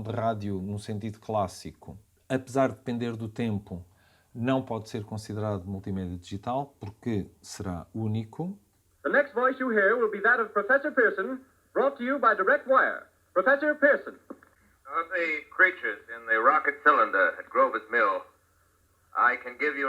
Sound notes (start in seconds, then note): 8.7 sound radio broadcast from War of the worlds